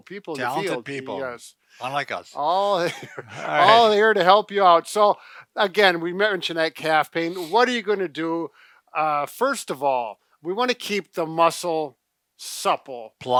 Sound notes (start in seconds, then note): 2.6 chuckles